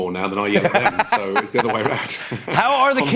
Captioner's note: laughs